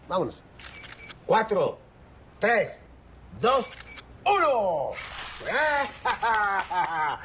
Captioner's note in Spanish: Clics del obturador